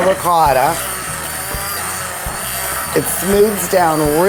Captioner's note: blender whirring